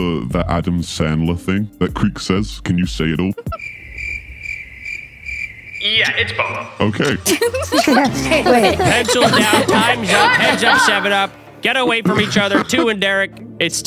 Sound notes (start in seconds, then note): 5.9 crickets chirping; 7.0 contestants laughing